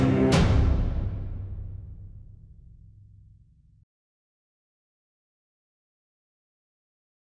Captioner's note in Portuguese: silêncio; silêncio